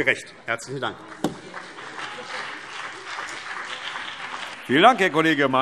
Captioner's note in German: Beifall BÜNDNIS 90/DIE GRÜNEN und vereinzelt CDU